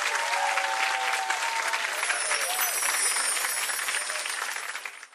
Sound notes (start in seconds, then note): 1.9 chimes tinkling